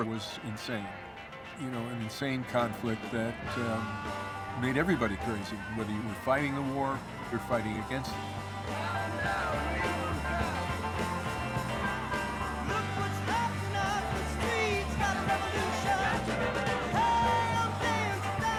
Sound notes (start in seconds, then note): 10.0 chanting